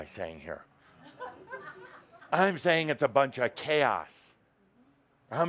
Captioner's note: laughter